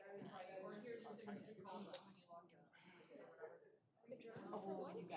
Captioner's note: off-mic chatter